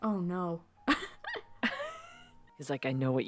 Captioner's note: both laughing